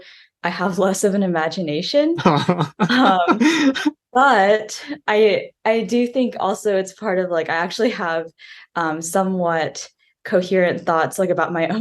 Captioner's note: laughing